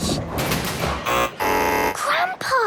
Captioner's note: buzzing